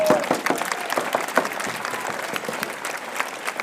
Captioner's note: applause